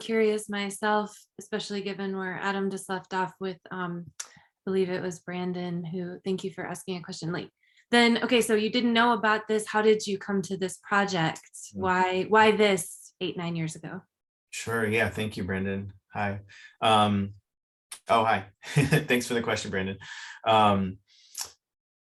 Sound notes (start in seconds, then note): 18.6 chuckles